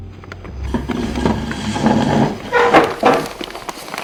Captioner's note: chair dragging; rustling paper